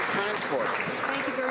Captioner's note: some Applause